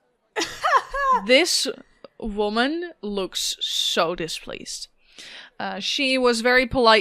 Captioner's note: laughs